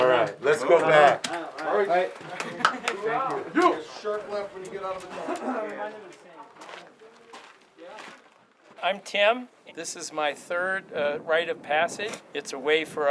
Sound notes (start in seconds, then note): 5.0 man laughs